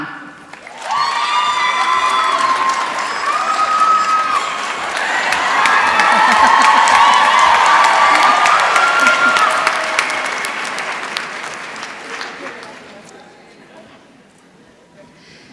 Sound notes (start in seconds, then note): 0.4 applause